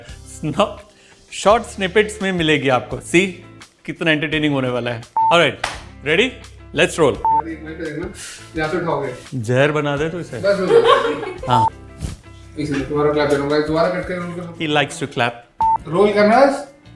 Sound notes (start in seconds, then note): 10.5 laughing